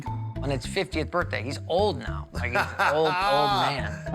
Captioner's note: Buddy chuckles